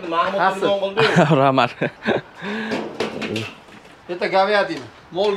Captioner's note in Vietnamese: Tiếng cười